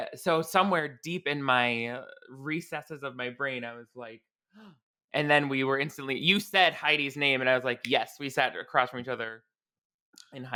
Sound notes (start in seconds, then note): 4.9 gasps